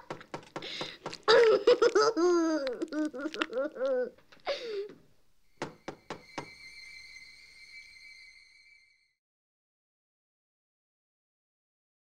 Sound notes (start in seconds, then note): 0.0 knocking; 1.2 Randy laughing; 5.6 knocking; 5.6 light music